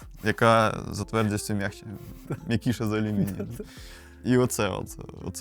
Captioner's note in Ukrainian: сміх